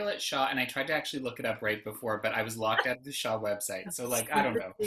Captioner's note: laughs